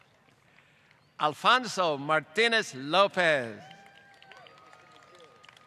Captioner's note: applause